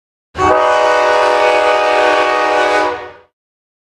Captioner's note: train horn sound